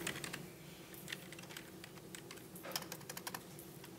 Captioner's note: keyboard clicking